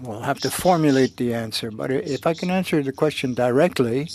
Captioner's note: speaking French